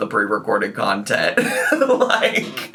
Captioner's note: laughing